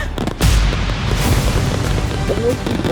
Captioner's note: fireworks booming